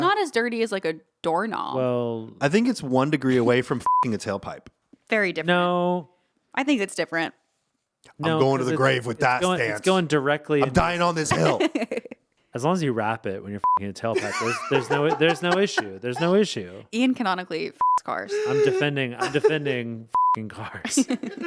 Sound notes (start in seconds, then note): 3.8 beep; 10.6 laughing; 13.6 beep; 14.1 laughing; 17.8 beep; 19.1 all laughing